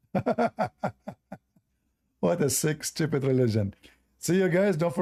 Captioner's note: Ketawa